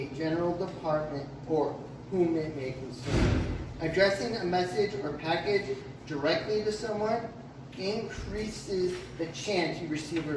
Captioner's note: slam heard in background